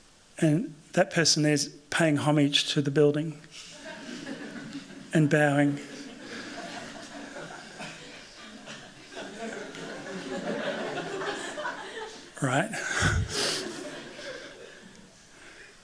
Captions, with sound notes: And that person is paying homage to the building. And bowing. [LAUGHTER] Right.